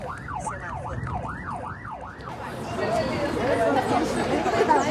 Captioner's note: siren blaring; crowd chattering and laughing